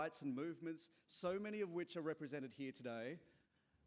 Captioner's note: none